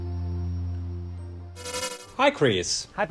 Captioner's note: screen turning on